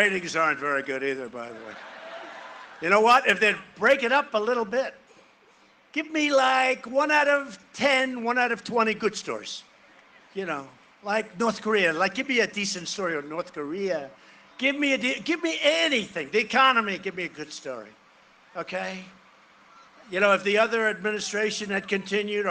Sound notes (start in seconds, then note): 1.5 cheering and applause